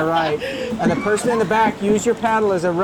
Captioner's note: girl laughing